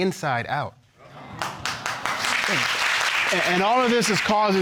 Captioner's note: audience exclaiming and applauding